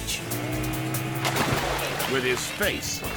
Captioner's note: water splashing